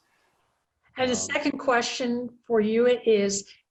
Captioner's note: voice muffled